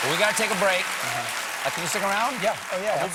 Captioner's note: cheers and applause